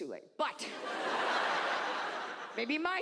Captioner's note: audience laughs